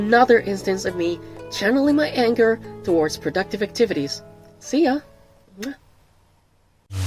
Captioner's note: blows kiss